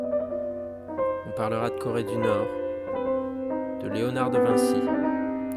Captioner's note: narration in French